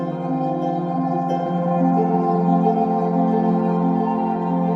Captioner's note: none